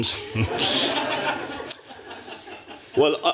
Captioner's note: laughter